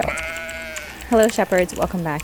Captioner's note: keyboard typing